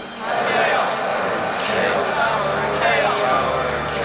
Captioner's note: chanting